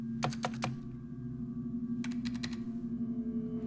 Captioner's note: keyboard clacking